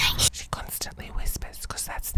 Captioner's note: whispering